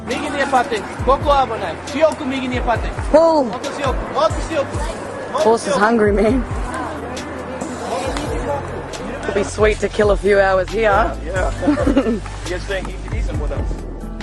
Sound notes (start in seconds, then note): 3.6 talking to horse in native Hawaiian; 11.6 laughter